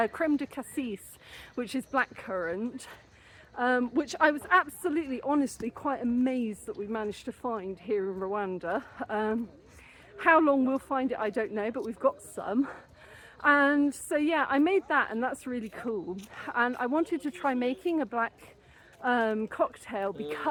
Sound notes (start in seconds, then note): none